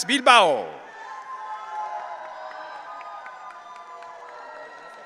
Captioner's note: audience cheering